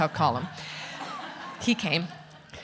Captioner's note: audience laughing